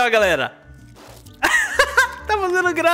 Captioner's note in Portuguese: Risos